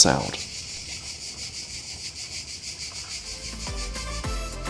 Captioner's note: sound of cicadas